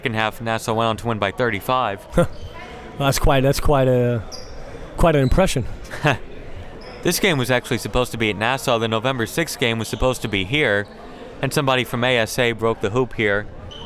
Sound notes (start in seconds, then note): 5.8 chuckles